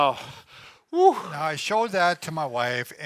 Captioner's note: wheezes